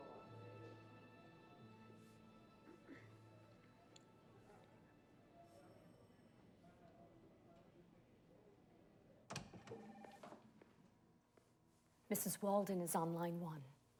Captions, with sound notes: [Debi clears her throat] [door opens] Mrs. Walden is on line one.